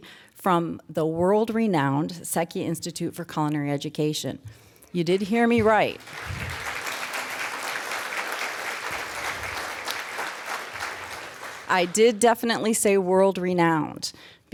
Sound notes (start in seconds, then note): 5.0 applause